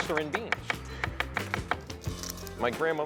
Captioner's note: knife chopping